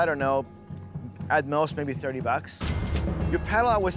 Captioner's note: cash register dings